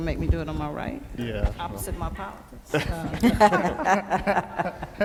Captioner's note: laughing